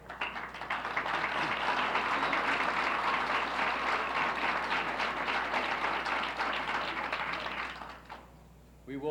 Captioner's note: applauses